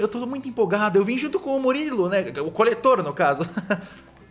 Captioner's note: laughs